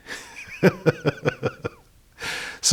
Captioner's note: laughter